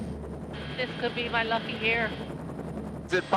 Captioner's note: none